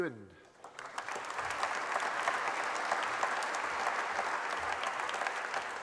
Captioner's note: applause